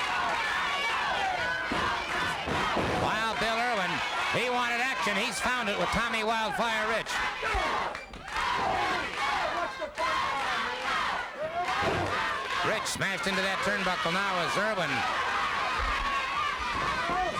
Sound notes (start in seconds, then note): 0.1 crowd yelling; 7.5 crowd chanting